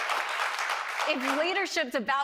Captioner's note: cheering and applause